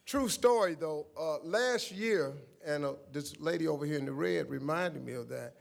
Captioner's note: none